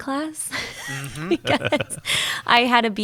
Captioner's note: laughing